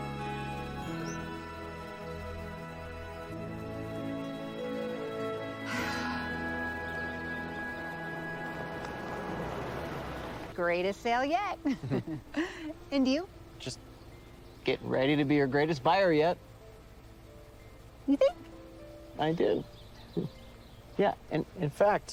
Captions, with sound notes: [sighs] Just getting ready to be your greatest buyer yet.t. -You think? -I do. Yeah, and-a-and in fact.